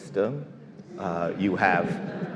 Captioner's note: all laugh